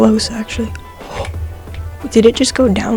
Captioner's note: ghasp